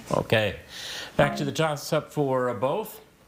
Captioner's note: text buzzing